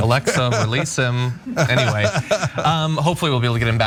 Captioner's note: laugh